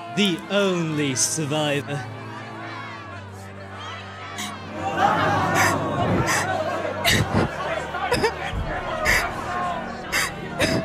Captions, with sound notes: The only survivor… [crowd becomes louder] [crying]